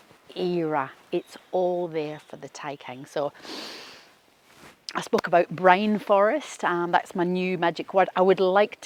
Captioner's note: inhales